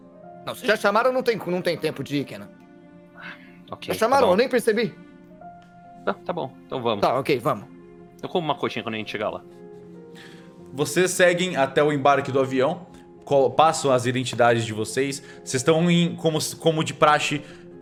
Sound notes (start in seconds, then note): none